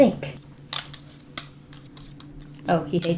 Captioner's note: claws tapping on desk